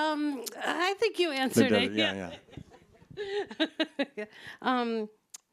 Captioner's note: laughs